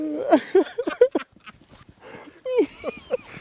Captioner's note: laughing